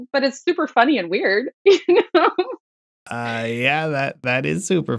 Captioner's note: laughter